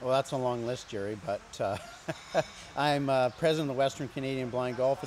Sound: chuckles

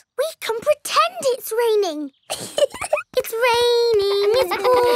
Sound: laughs

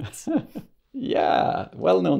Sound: laughs

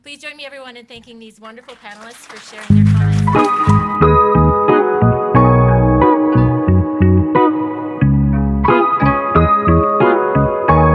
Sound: applause

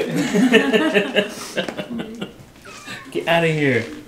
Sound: laughing

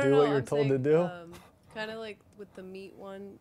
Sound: voiceover

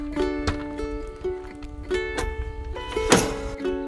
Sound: door latching; light music

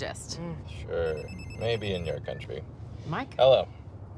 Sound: cellphone rings

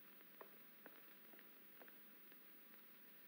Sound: alice's footsteps echoing

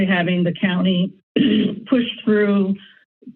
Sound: clears throat

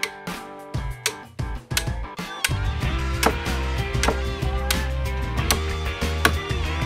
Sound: hammer and music

